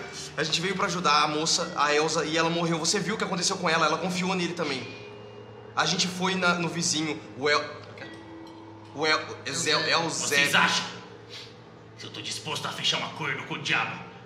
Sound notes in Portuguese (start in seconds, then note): none